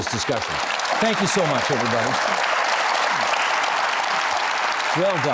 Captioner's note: applauding